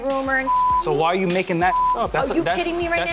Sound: beep

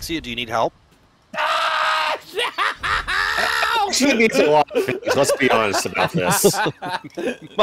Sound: screaming

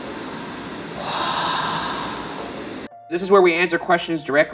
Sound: disembodied Voice

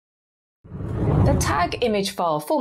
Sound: screen whooshes

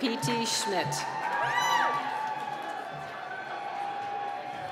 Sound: cheering

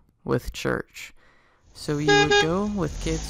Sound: car horn

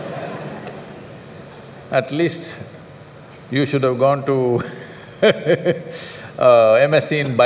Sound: laughter; laughter

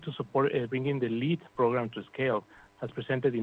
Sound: speaking spanish

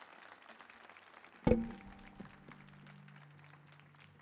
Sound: applause; sound of guitar hitting mic stand

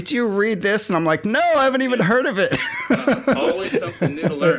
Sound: laughs

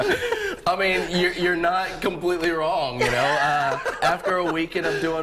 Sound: laughter

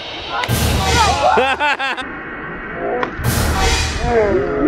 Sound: laughs

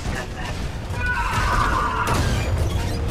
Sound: death scream

